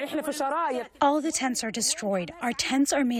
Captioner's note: through translator